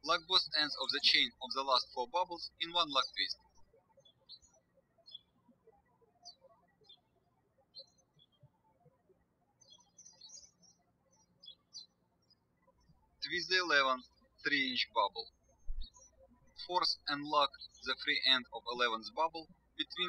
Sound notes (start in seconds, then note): 4.6 birds chirping